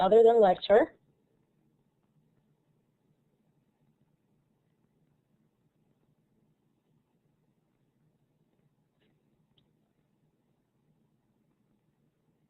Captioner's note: silence